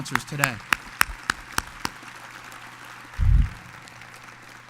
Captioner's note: audience applauds